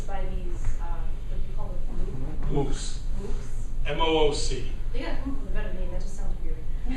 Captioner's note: laughter